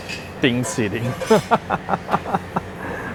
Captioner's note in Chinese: 笑聲